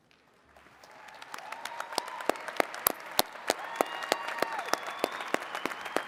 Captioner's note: attendees cheering and clapping